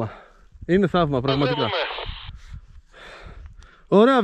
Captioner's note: radio talk